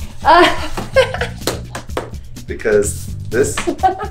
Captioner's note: laughs